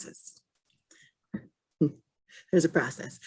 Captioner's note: laughs